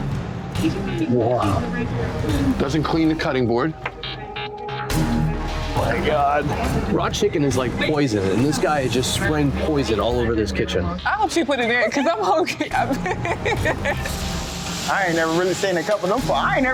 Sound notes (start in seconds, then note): 11.7 laughs